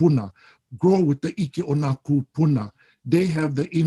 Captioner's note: speaks Hawaiian